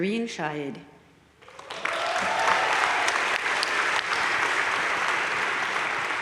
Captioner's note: audience cheering and applauding